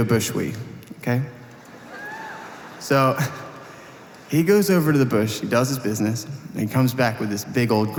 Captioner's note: audience Laughter